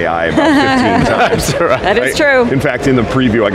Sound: laughing; laughs

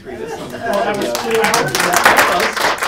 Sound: audience applauds

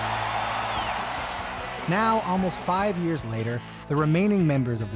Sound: cheers and Applause

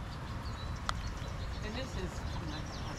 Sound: birds chirping

